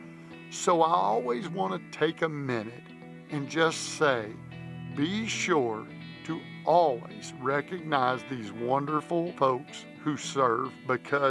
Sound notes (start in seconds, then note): none